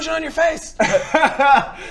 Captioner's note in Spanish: risas